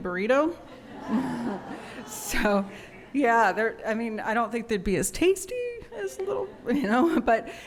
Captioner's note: laughter